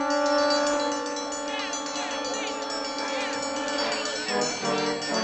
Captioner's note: all shouting